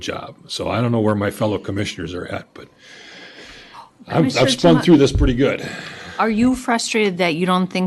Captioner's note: gasps